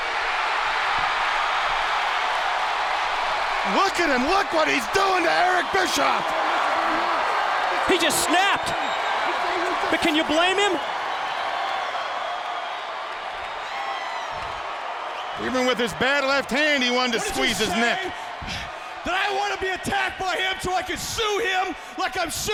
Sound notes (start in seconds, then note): 0.2 crowd cheering; 11.8 crowd cheering